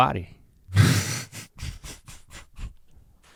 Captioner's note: sputters